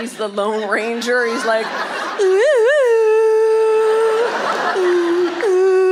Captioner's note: imitates Wild West music